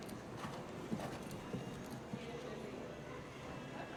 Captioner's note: horse galloping